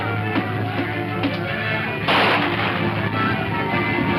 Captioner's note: people screaming; gun firing